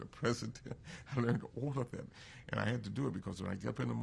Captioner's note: laughs